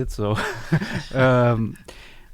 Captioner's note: laugh